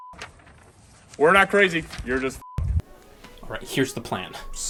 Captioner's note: beep